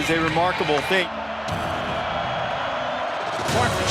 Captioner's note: cheering